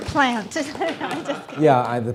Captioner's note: audience laughing